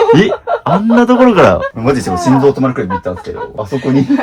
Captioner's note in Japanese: 笑い